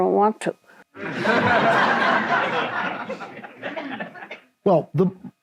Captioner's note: audience laughs